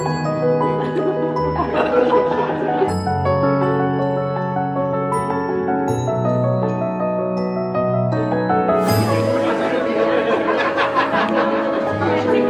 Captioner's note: laughter